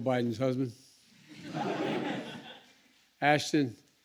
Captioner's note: laughter